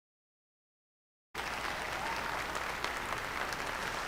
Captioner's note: applause